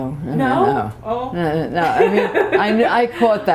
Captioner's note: laughter